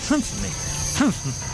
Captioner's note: mumbling